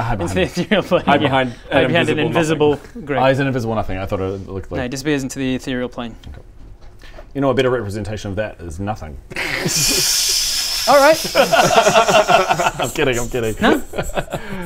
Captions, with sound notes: into the ethereal plane Hide behind an invisible nothing Ah he's an invisible nothing, I thought it looked like No he disappears into the ethereal plane You know a better representation of that is nothing? *laugh-hiss* Alright! *unappreciative laughter* I'm kidding I'm kidding! No